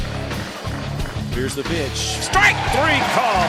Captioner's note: voiceover